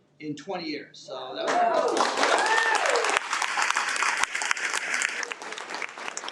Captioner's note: audience cheers and applauds